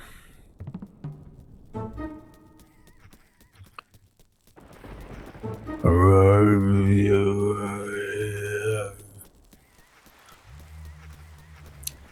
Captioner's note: Evil Dead noises